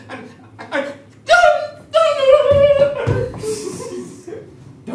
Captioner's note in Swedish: högtonat, hysterisk gråtande